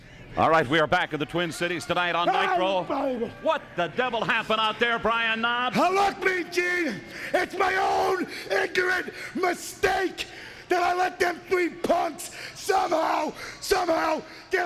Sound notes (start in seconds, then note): 2.6 faintly speaking